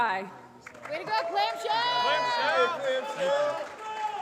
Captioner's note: applause